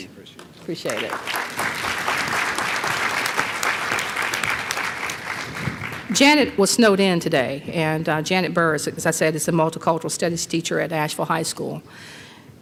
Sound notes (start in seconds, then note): 0.4 applause